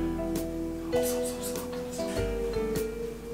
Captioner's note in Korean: 속삭이며